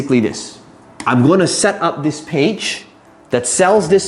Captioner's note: tapping marker